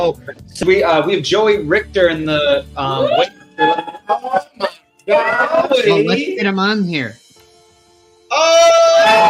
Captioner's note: cheering, inaudible; cheering